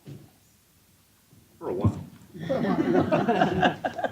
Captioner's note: laughter